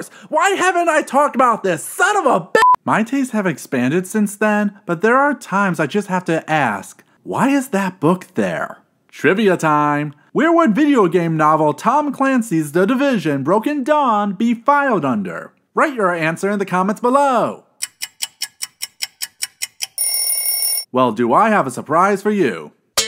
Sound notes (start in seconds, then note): 17.8 clock ticking; 20.0 clock ringing